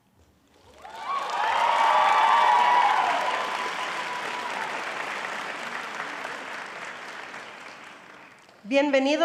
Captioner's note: applause